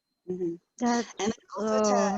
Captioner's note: groans